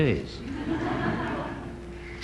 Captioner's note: Senate chuckles